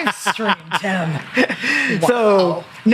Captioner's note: laughs